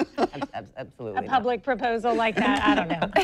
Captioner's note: laughter